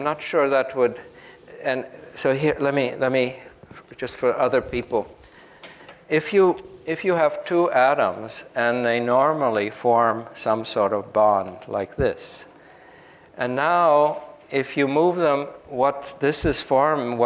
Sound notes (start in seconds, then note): none